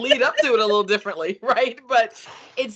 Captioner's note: laughing